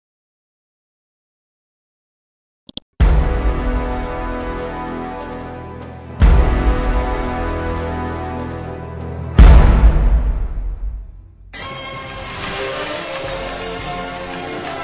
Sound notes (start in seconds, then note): 2.7 mouse clicks; 3.0 dramatic chord; 6.1 dramatic chord; 9.1 dramatic chord; 12.5 rousing music